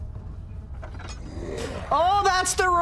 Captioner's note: monster growl